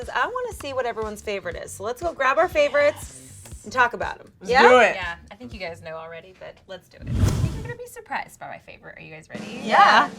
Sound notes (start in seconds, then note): 7.0 air whooshing